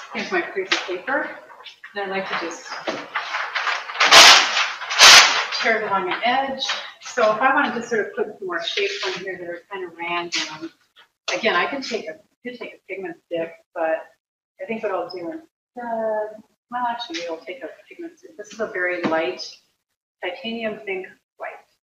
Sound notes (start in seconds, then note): 0.0 paper crackling; 2.2 paper tearing